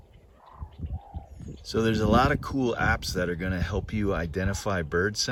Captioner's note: various bird noises